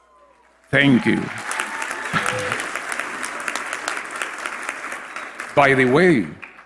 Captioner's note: applause